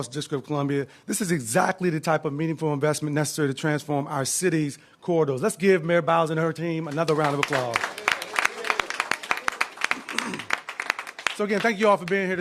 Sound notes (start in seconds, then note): 8.5 applause